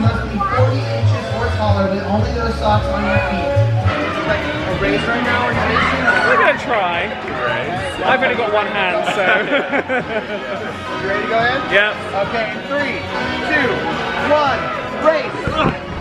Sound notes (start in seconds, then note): 8.9 laughs